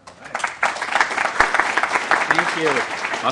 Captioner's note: applause